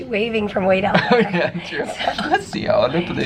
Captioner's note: chuckling